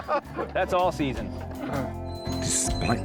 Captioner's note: all laugh